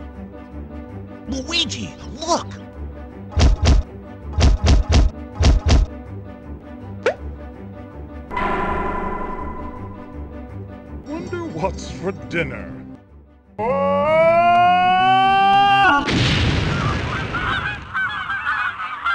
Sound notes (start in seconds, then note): 3.1 thump, thump, thump; 7.0 pop!; 16.0 explosion